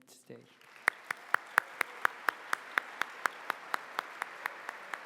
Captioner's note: applause